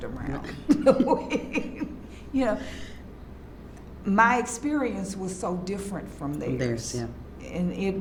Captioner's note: laughs